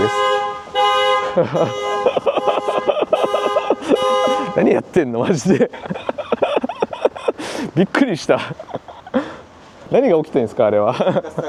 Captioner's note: sound of security alarm